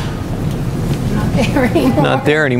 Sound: giggles; chuckles

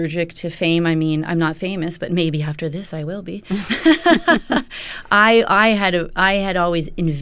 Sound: laughter

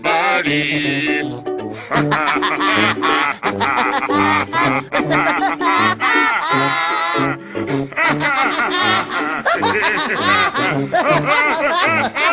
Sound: midori and huli laugh throughout

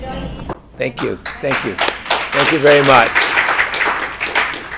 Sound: applause

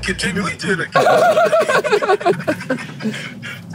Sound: both laughing

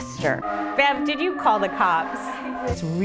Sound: sirens

